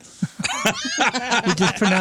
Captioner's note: laughing